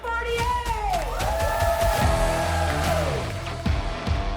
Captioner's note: people cheering; upbeat rock music